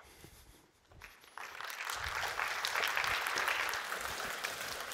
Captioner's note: applause